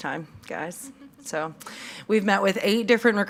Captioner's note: attendees laughing